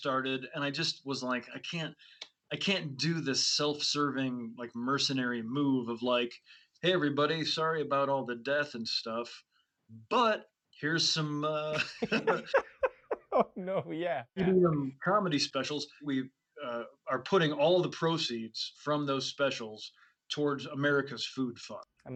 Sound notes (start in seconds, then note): 11.6 both laugh